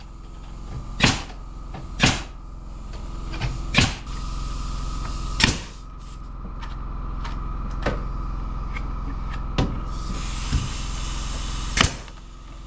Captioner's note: motor whirring